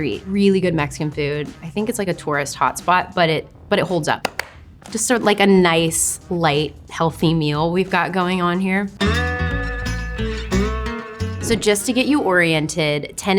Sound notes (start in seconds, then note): 4.2 clapping hands; 9.0 lighthearted country music